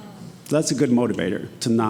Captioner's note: attendee gasping